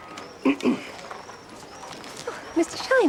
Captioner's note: Shinar clears his throat